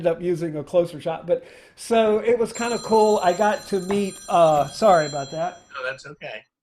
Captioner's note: phone rings